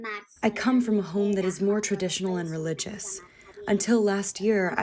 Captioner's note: through translator